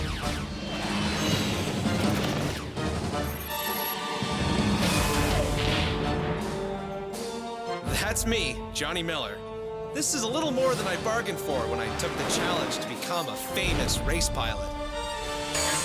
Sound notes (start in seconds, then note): 0.0 lasers fire; 3.3 targeting device beeps; 6.3 missiles hurtle through air